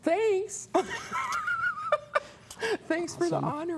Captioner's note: laughs